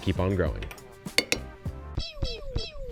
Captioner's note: spoon tapping